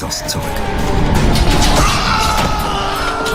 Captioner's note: screams